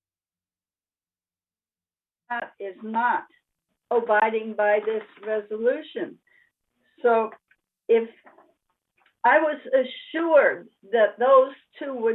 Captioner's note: loss of audio